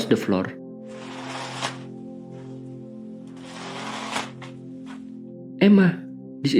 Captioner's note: sound of a chain being dragged